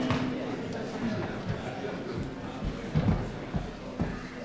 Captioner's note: crowd murmurs